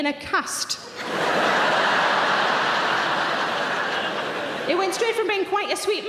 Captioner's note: audience laughing